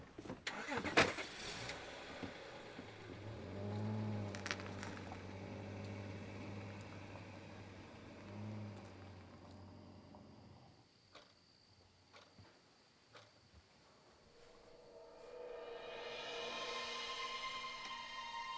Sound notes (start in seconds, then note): 0.7 car engine revving; 7.8 insects chirping; 11.2 clock ticking; 14.5 dramatic music